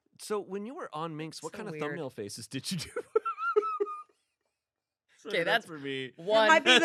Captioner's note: laughs